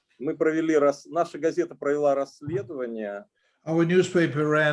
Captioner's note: speaking Russian language